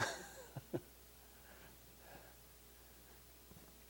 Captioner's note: laughing